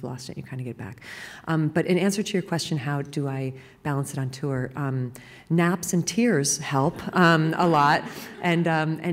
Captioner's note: laughter